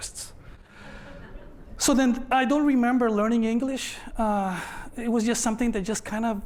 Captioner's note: laughter